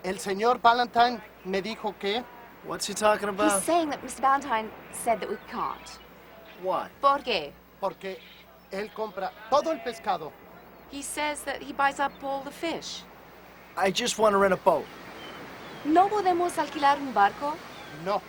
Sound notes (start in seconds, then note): 1.4 speaks in foreign language; 8.2 speaks in foreign language; 16.0 speaks in foreign language